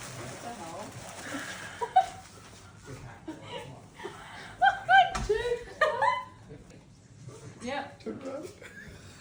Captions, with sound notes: "what the hell" *laughs* "haha, Jake" "yup, turn around"